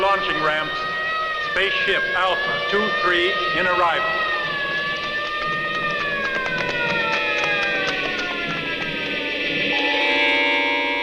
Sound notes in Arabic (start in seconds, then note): 3.1 صفارة الإنذار تصرخ; 4.0 خطوات قوية